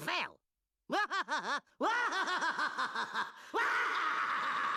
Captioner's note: laughing maniacally